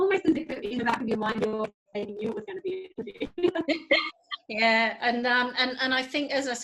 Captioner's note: laughs